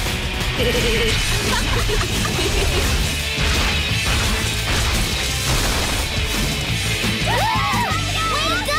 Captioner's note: giggling